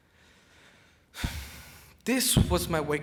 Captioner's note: sighs